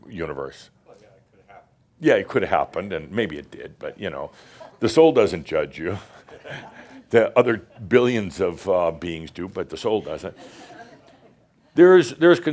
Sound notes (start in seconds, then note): 5.9 they chuckle